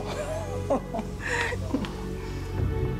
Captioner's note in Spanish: risas